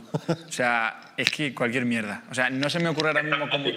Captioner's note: laughs